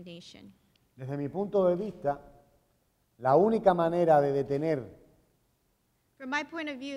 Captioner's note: speaking in Spanish